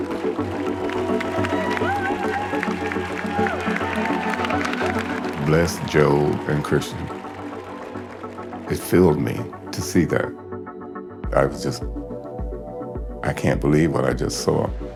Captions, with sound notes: [audience cheering] [audience applauding] - Bless Joel and Christian. It filled me to see that. I was just, I can't believe what I just saw.